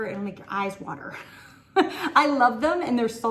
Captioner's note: laughs